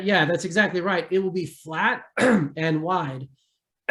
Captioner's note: clears throat